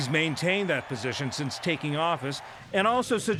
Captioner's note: cheering and applause